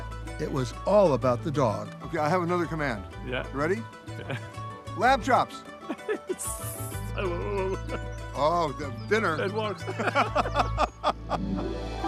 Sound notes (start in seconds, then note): 5.8 laughs; 9.7 both laugh